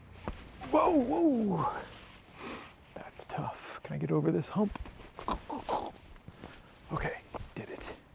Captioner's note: grunt